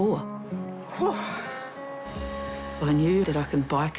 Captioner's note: puffs